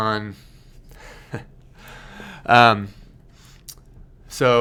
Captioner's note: chuckling